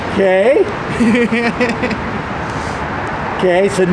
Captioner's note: laughs